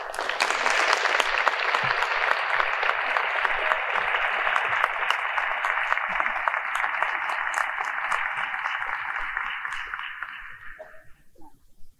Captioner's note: applause